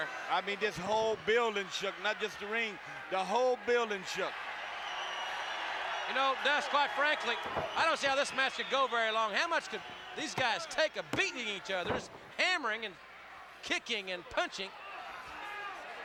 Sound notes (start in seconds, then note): 4.6 applause